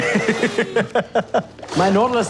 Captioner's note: laughing